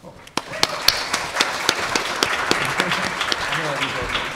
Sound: audience applauding

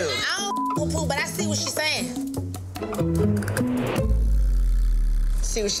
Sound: beep

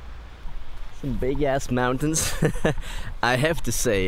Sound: laughs

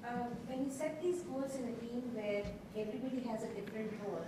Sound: voiceover

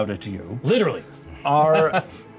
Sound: laughs

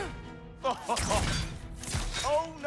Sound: laughs

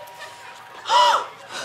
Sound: gasps

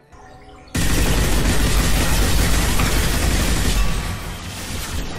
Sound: gunfire blasting

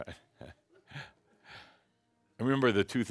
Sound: chuckles

